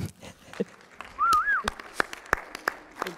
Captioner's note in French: applaudissements